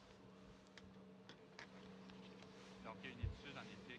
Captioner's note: speaking French